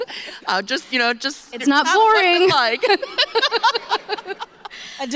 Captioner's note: laughter